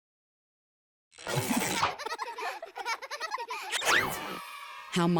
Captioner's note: children laughing